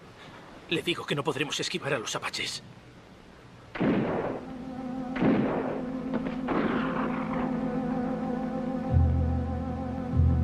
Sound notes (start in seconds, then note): 3.7 distant guns fire; 3.8 suspenseful music